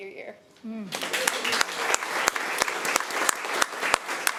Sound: applause

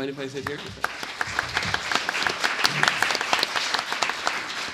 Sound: audience applauds

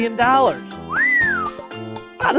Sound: appreciative whistle

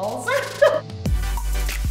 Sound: upbeat music; laughs

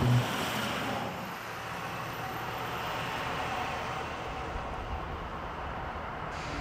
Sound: engine revving

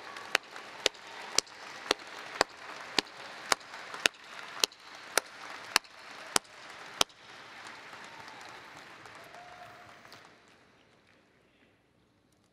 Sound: applause

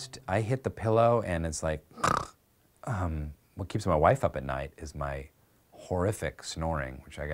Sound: snore sound

